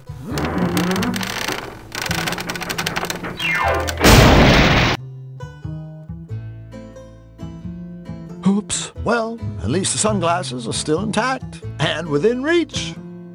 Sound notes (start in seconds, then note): 0.0 closet creaks; 3.5 pow!